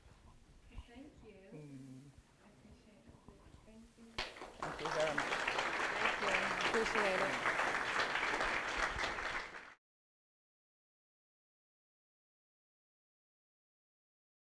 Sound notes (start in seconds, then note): 4.2 applause